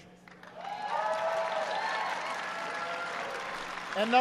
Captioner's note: applause